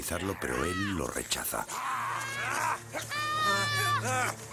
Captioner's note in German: Spricht eine andere Sprache